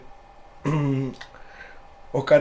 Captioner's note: mmm